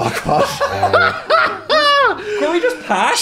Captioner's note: Dan and Phil laughing